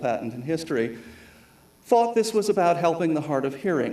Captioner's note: none